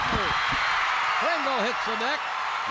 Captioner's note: crowd cheers